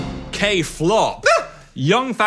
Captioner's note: Dan yelping